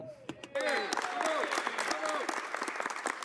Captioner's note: speaking French